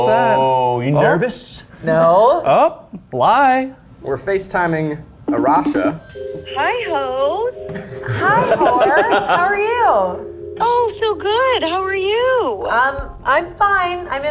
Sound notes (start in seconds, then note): 7.4 laughs